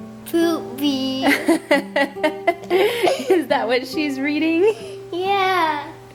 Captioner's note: laughs